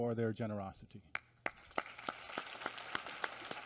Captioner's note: applause